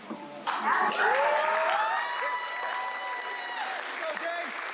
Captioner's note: applause